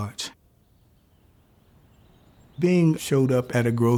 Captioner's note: birds chirping